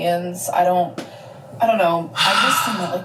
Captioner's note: sighs